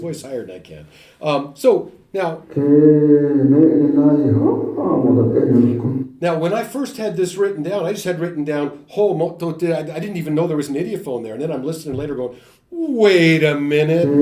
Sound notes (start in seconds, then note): 8.1 speaking Werikyana